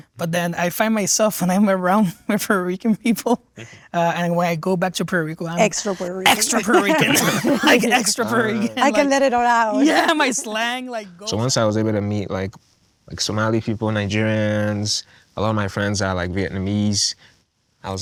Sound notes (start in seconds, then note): 7.5 group laughing